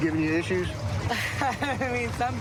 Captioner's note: laughs